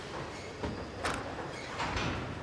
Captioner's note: clicks